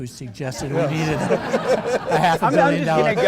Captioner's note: audience laughing